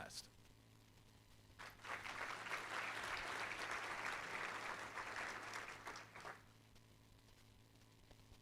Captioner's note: applause